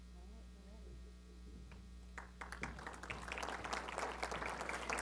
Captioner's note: applause